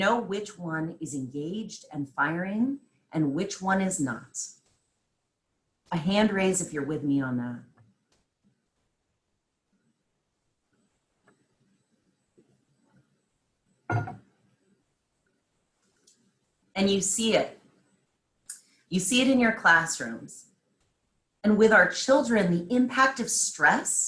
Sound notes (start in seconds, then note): 11.5 silence